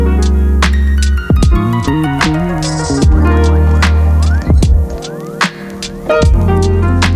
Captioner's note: laughs